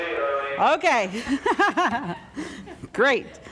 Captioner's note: laughs